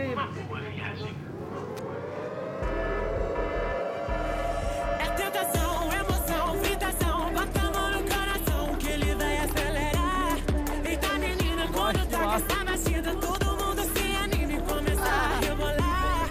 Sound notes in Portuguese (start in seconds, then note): 1.2 som de alarme; 4.8 "buzina" tocando